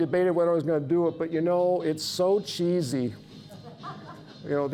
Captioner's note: audience laughing